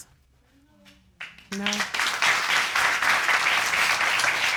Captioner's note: applause